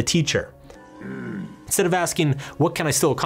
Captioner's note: groans